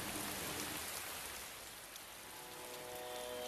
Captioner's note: man recites